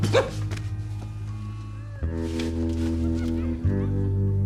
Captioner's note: laughing continues